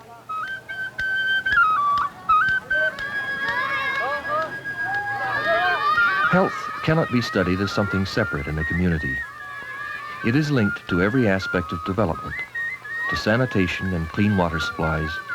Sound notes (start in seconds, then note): 0.3 flute music; 2.6 children playing; 4.6 splashing